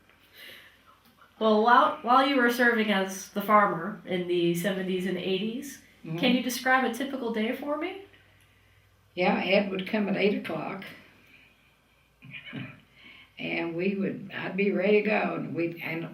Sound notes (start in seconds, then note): 11.2 laughs